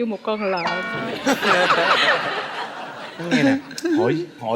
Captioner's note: laughing